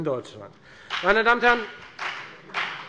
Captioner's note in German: Beifall bei der FDP